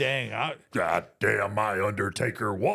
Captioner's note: imitating Vince McMahon